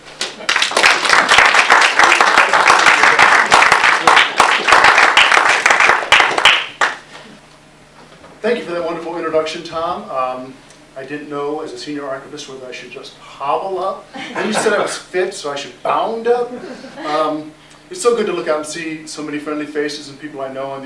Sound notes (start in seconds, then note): 0.2 applause; 14.1 laughter